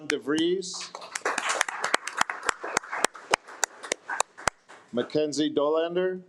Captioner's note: attendees applaud